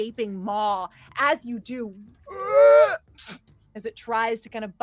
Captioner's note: Jilrock groans